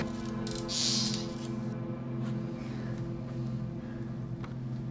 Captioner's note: cellar door creaking